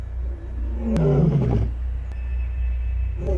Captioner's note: roaring